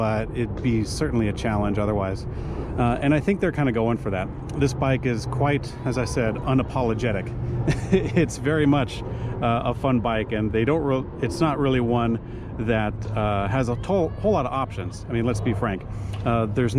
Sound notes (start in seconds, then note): 7.6 chuckles